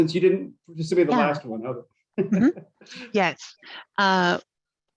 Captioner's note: chuckles